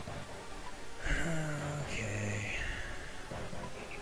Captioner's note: long sigh